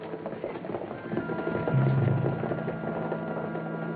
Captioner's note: horses trotting